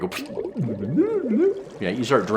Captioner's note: water bubbling